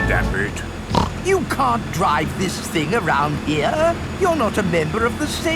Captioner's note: snorts